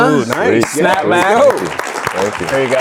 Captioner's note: audience applauding